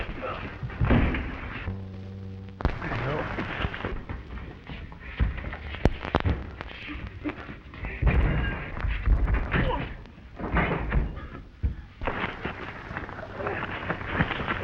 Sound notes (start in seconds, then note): 0.3 punch cracking; 9.8 Nate groans